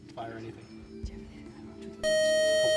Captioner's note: beep